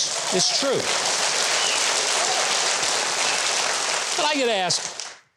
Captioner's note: audience applauds